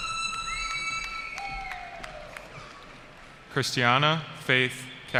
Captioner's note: cheering